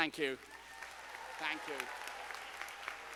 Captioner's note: students applauding